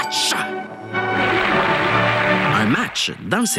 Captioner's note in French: applaudissements